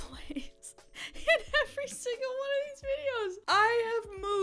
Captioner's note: laughs